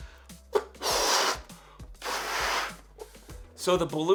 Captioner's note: blowing balloon